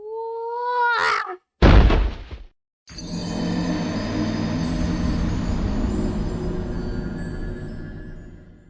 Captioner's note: squirrel screaming for dear life